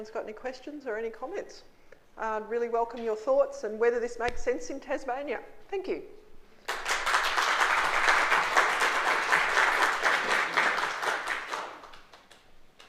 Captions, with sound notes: if anyone's got any questions, or any comments. I'd really welcome your thoughts and whether this makes sense in Tasmania. Thank you. (applause)